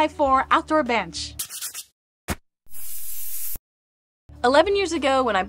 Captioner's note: graphics swoosh